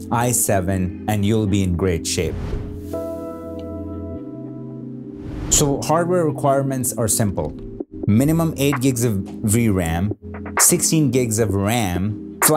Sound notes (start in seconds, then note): 2.2 gentle beats; 2.2 whoosh sound; 5.2 whoosh sound